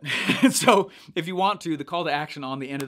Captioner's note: chucking